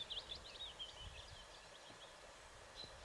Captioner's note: birds calling